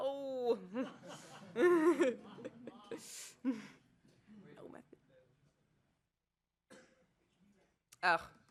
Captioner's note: laughter